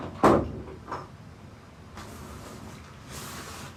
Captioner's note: door slams